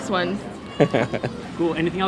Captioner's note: laughs